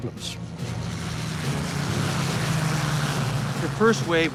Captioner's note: engines roaring